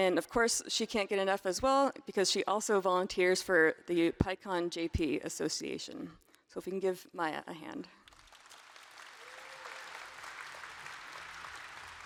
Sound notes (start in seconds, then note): 8.0 applause